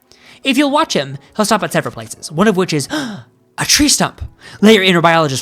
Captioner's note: gasp